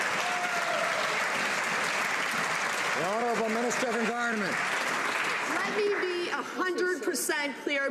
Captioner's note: some Applause